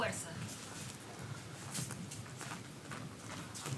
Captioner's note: dancer speaks in foreign language